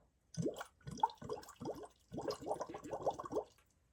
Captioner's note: water bubbles